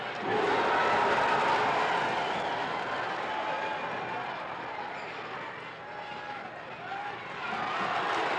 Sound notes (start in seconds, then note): 0.0 crowd cheers